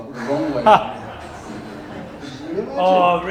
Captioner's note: laughter